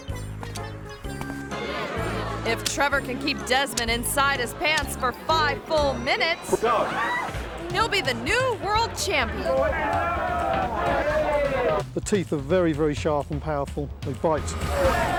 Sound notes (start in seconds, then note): 0.1 comical music; 9.8 people chattering; 14.7 people chattering